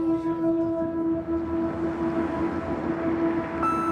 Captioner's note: gentle music; traffic whooshing